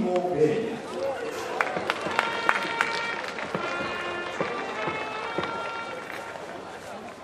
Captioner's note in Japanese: 拍手